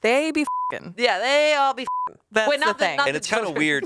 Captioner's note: beep